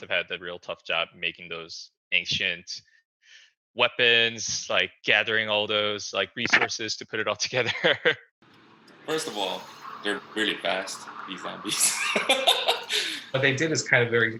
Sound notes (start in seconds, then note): 7.6 chuckles; 11.6 laughs